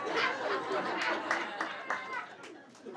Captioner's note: laughing